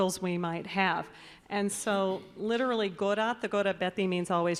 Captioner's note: announcer speaking in Basque